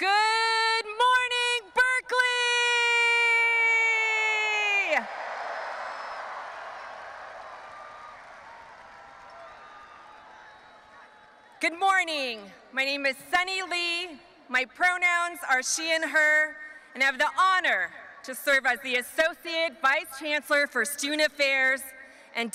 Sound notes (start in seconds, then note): 4.8 audience applauding and cheering